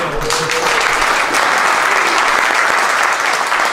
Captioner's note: applause